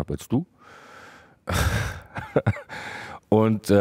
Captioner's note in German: lacht